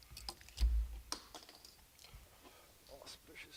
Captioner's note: plastic clanking